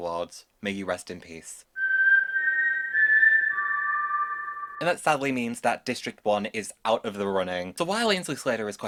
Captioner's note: whistles